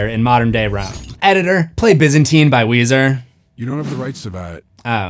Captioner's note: off-screen voice